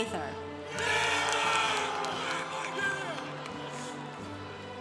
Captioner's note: congregation applauding